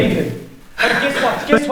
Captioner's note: Carrie's breath shudders